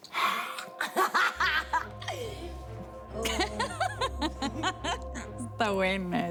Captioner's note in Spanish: Risas